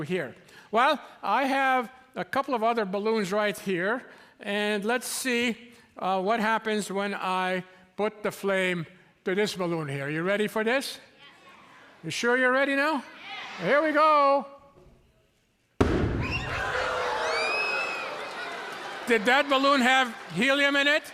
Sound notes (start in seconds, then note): 15.8 loud boom; 16.3 audience squawks